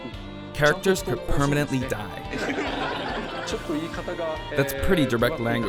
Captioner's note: laughter